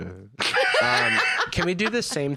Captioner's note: laugh